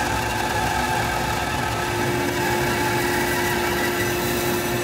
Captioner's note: saw whirring